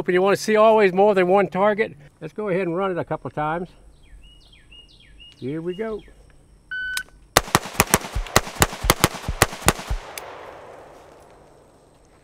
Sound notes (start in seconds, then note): 6.7 timer beeps; 7.3 rifling firing